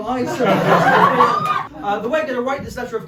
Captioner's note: audience exclaims in excitement